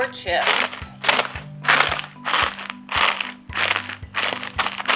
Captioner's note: paper crumpling